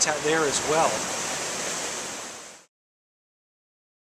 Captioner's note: river roaring